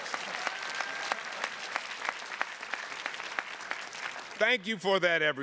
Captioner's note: attendees clapping